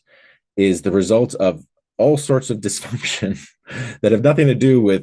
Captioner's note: laughing